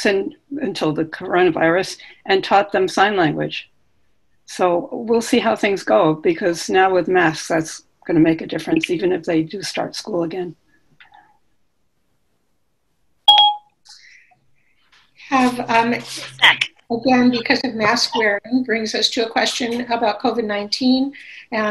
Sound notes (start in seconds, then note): 13.2 electronic beep